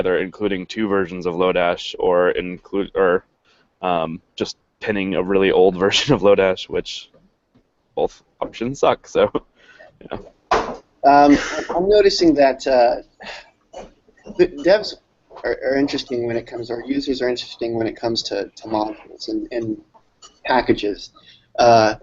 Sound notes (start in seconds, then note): 8.7 laughs